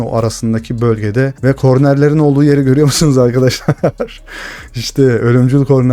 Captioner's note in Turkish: kahkaha